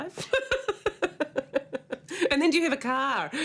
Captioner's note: laughs